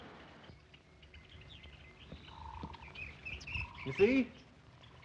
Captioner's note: birds chirping